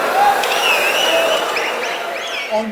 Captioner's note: wild applause and cheering for 22 seconds